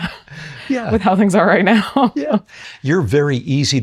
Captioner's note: chuckles